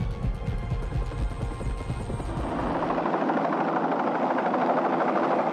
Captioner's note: helicopter whirring